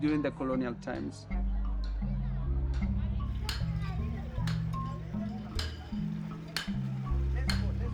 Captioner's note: indistinct chatter